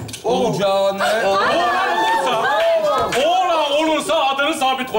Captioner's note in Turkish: sevinme sesleri